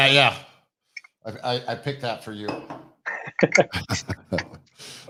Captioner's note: laughs